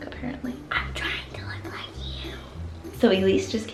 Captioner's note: whispers